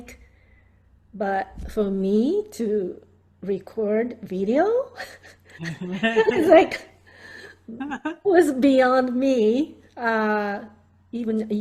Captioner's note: laughs